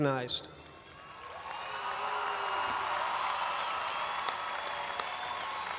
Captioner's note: audience applauds and cheers